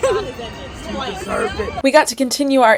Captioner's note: laughing